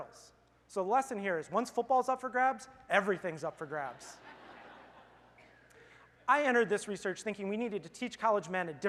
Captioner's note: laughter